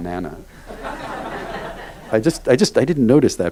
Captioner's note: audience laughs